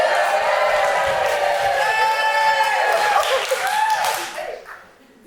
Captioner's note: audience cheering